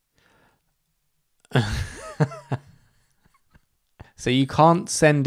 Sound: laughs

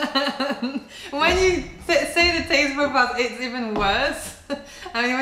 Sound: laughter

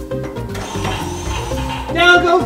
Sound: whirling sound

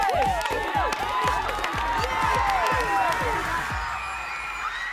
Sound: cheering

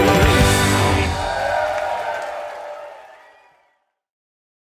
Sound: drum rolling; audience cheering

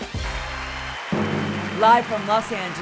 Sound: applause

